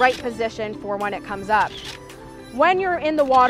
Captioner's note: camera clicks